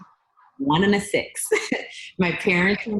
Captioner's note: laughs